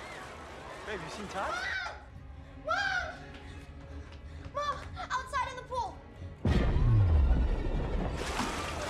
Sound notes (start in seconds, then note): 1.4 screaming